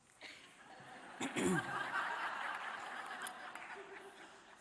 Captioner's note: audience laughing